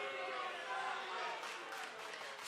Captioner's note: fans chanting